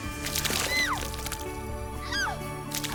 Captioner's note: gentle music; vomit splashing; Gel squealing; vomit splashing